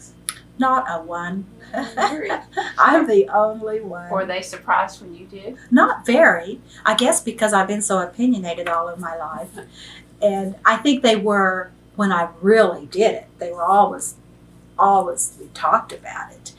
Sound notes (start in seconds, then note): 1.5 laughs